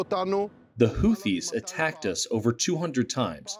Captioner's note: through translator